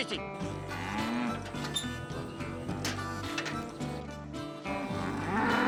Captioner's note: trailer gates creak open; bull grunts